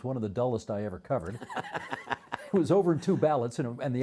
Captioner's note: laughing